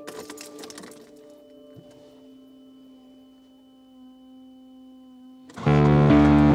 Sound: keys clatter; car engine whirs; intense music

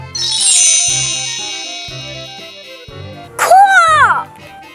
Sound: magic wand

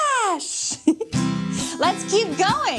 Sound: chuckles

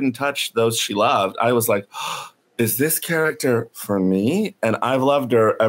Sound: gasps

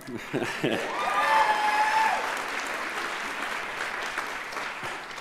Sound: audience cheers and applauds

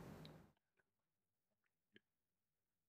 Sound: silence

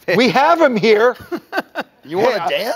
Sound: laughing

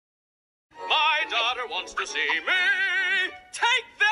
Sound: singsong voice

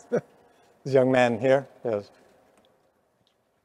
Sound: chuckles

